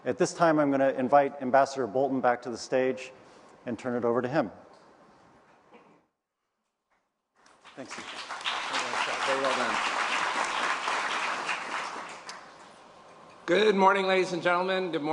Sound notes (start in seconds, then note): 5.7 applause